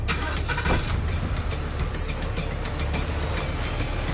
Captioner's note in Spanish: Ruido del motor